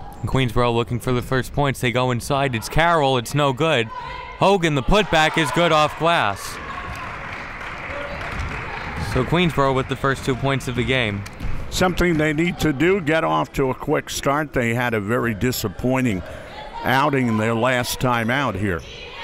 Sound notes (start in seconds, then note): 6.5 clapping